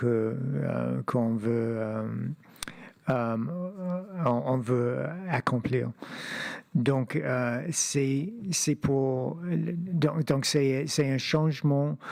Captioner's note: speaking French